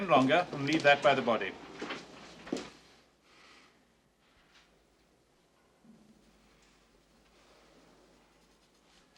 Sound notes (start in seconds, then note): 3.2 breathing heavily